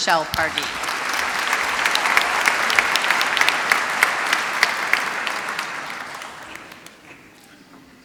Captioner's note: applause